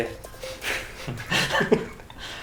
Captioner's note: both laugh